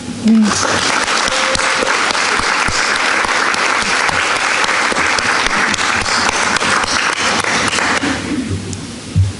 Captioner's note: applause